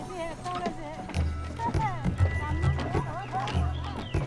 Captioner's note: woman speaking Tibetan, laughing